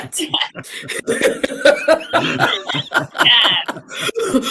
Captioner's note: all laughing